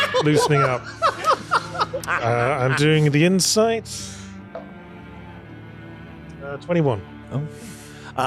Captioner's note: laughter